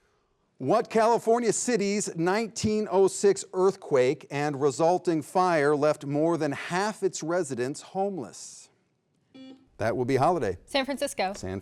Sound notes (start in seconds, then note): 8.9 beep